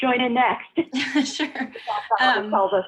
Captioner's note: laughter